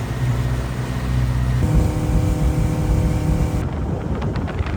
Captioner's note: wind and engine sounds